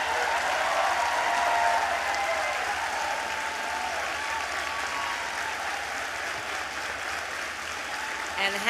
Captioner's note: applause